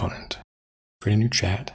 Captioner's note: blank Audio